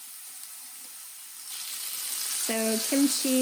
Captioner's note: sizzling